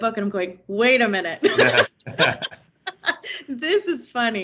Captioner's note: laughing